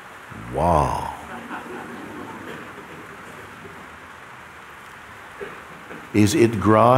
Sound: laughter

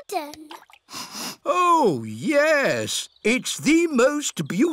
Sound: sniffs

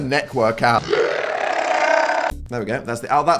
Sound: slow motion screaming

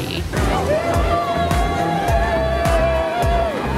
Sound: cheering

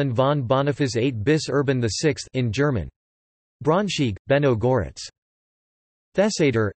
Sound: in German

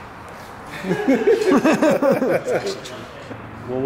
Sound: laughter

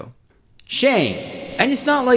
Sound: echoing Sound effect

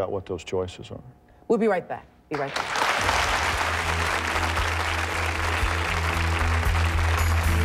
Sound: audience applauding

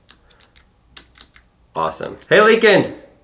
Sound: button clicks

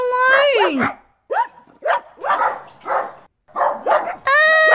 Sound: barking

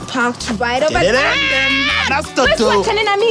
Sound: groans

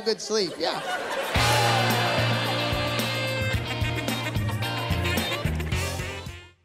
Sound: laughter

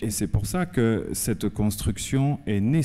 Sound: speaking french

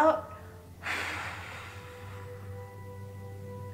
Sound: deep breath

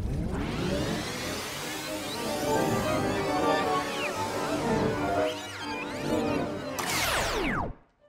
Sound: tape fast forwarding

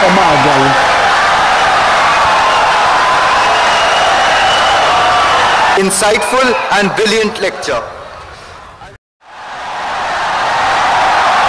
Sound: wild applause and cheering for 17 seconds

